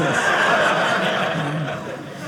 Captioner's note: audience laughing